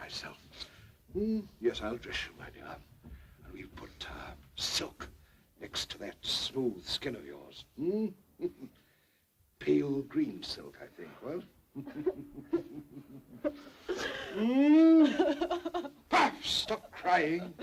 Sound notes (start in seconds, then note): 11.8 Mary sobs; 13.3 Sir Humphrey laughs